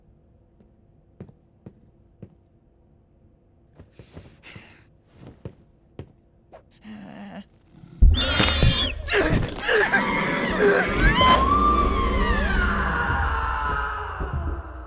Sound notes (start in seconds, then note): 4.1 exhales; 6.4 tense groan; 8.0 hiss!; 8.3 exasperated gasp; 9.0 Paul vocally struggling; 9.3 possum hissing and growling; 10.7 Paul screaming